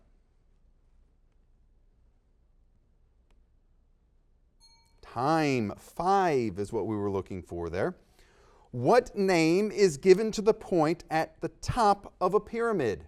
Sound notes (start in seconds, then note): 0.0 silence; 4.6 dings